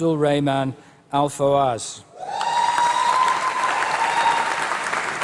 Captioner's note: applause